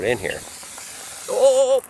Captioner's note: spray hisses